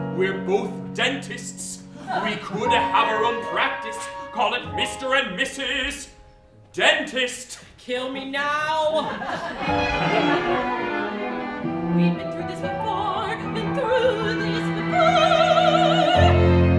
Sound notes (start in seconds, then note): 8.9 laughter